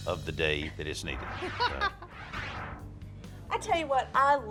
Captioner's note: laughs